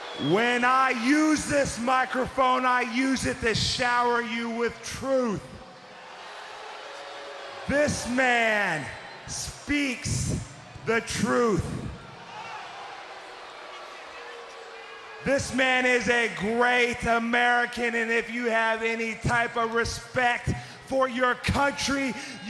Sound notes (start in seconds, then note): 6.3 crowd booing; 11.5 crowd chattering